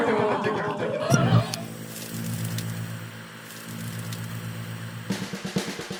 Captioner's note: click, TV static; groovy theme